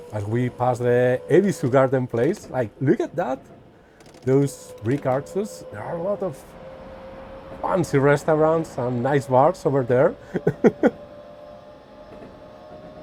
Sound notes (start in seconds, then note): 10.2 laughts